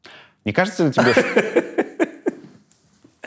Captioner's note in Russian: смеётся